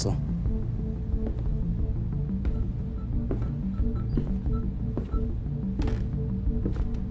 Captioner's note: tense music; machinery beeping